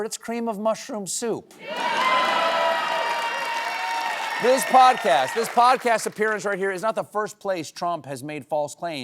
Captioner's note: cheers and applause